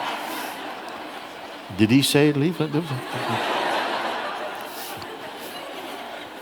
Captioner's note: laughter